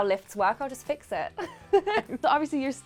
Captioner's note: laughing